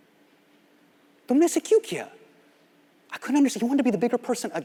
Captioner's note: speaking Hindi